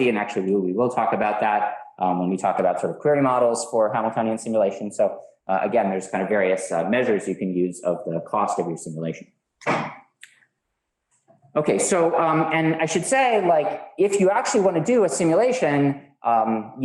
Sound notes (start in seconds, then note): 9.7 door thuds